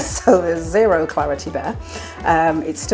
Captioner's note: laugh